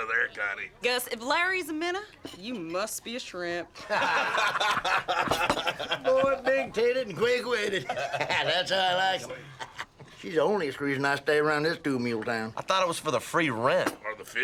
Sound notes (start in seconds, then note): 3.8 laughter